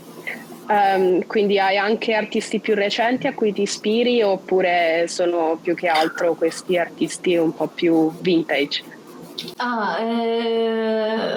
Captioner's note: speaks Italian